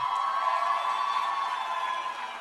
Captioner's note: cheers and applause